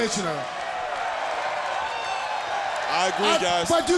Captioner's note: crowd cheering